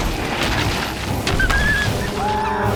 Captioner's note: whimpering